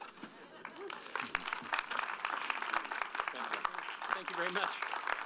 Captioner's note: applause